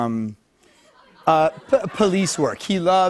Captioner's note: laughter